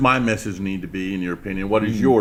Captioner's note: laughs